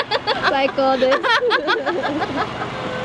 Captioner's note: laughter